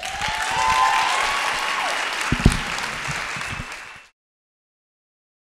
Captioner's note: audience clapping and cheering